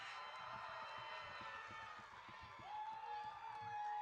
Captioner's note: audience cheering